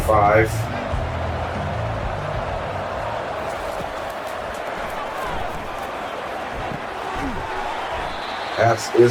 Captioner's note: crowd Noises